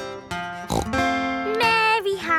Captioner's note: playing guitar; snorts